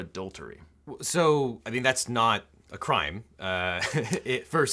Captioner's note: laughs